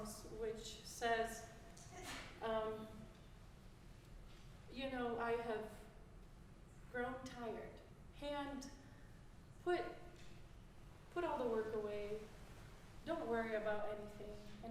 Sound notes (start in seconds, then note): none